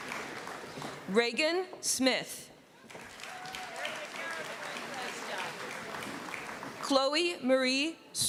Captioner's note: applause; applause